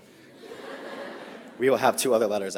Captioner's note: audience laughs